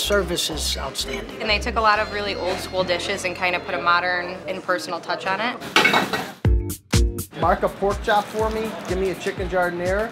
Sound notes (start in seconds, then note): 5.8 pan clattering